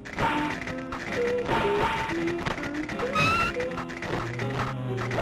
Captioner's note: creepy humming